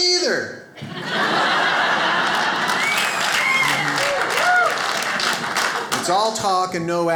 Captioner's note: audience laughs